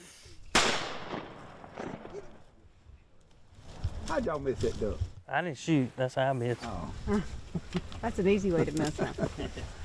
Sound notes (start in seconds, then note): 0.5 gunshot